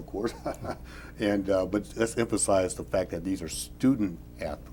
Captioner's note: laughs